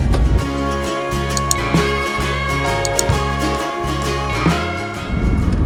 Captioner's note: clicking noise